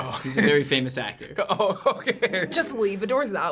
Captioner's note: laughing